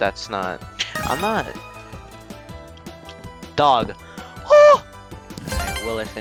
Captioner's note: weird gasp